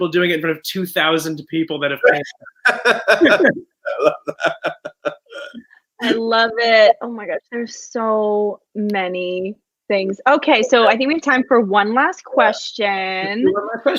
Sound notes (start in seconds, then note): 1.9 laughs